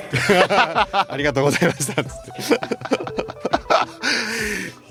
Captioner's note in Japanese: 笑い